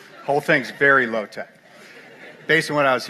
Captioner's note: laughter